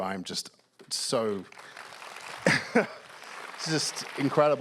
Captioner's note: applause